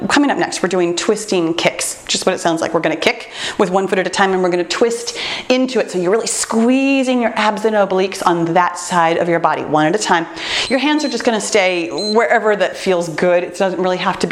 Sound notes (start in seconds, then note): 10.6 timer beeps